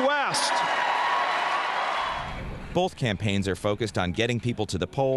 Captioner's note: cheering and applause